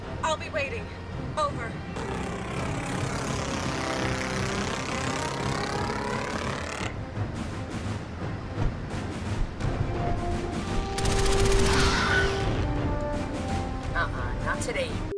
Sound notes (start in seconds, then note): 3.5 dramatic music; 3.5 propellers whirring; 10.9 turret firing